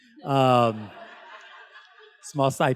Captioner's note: students laughs; laughs